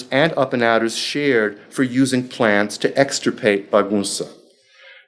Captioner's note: speaking foreign language